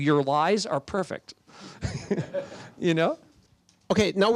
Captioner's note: laughter